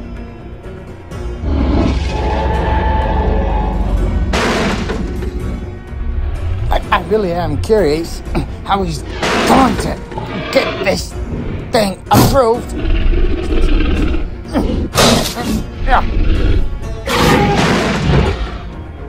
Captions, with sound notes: (Crashing vehicle sound) I really am curious how he's going to get this thing approved. (grunting) (thudding)